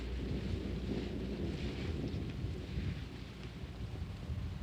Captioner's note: wind blowing